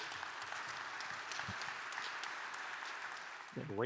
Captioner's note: audience applauds